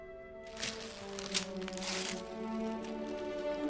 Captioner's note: crinkles